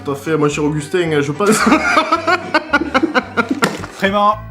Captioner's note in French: rires